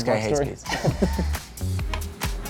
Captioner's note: laughing; low rhythmic music